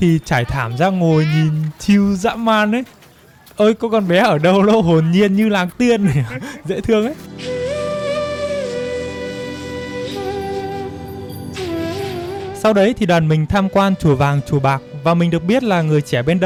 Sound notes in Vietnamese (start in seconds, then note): 4.2 tiếng cười